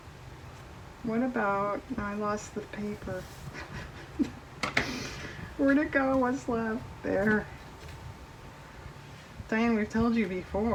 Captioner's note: laughs